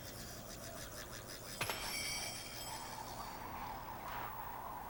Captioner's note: sleigh bells ring; footsteps